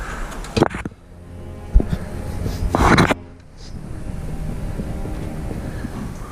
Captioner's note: heavy breathing and grunting; scraping and banging